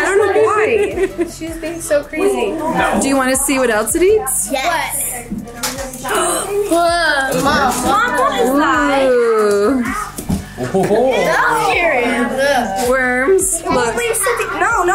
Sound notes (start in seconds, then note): 6.3 girls exclaiming; 11.0 group exclaims